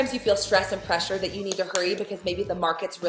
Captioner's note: hand slap